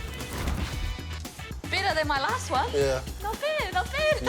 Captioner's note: laughs